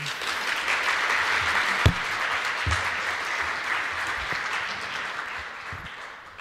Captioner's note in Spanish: aplausos